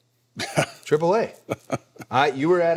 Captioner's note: Undertaker laughing